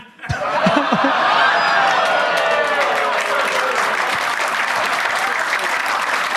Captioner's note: audience laughs; audience claps